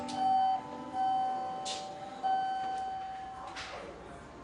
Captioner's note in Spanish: Timbre del ascensor